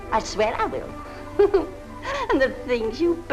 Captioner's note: Adele laughing